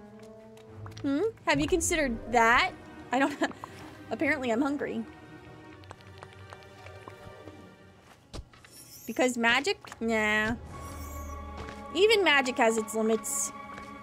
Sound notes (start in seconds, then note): 3.2 laugh